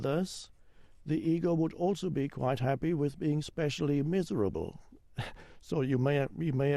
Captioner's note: chuckles